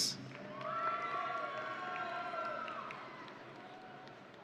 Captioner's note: audience cheering